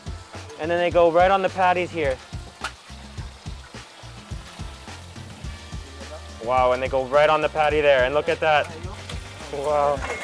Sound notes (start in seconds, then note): 4.1 speaking in foreign language